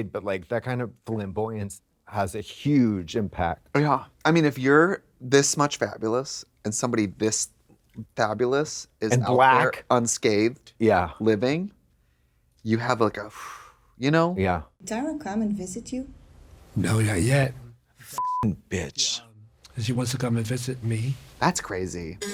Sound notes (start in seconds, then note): 13.2 exhales; 18.1 beep